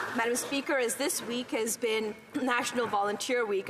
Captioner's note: some Applause